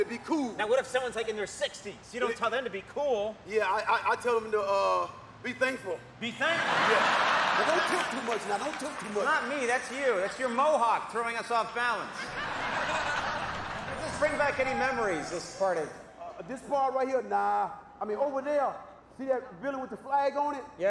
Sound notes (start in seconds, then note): 6.5 audience laughing